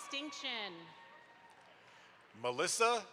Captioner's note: audience applauds